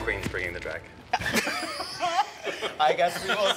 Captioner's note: all chuckling